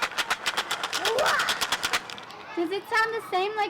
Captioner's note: rattling